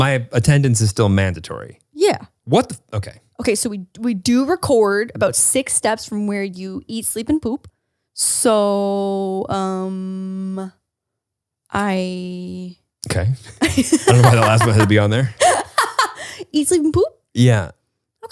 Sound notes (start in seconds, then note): 13.5 laughs